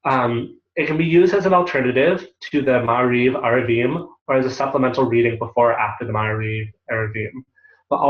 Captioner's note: Hebrew